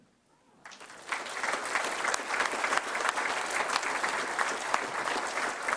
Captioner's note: applause